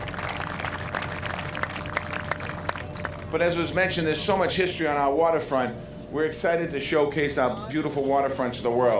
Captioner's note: applause